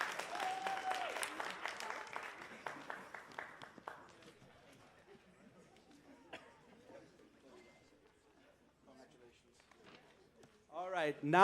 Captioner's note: cheers and applause